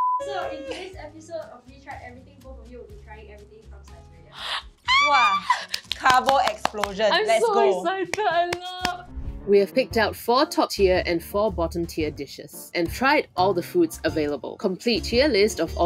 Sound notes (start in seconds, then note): 5.0 squeals